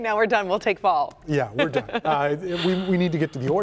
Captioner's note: laughter